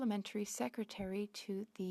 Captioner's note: speaking French